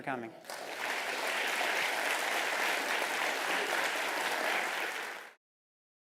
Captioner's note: applause